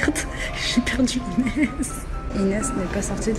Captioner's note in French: rire